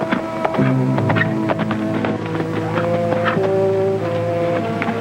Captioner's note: horse trotting; pensive orchestral music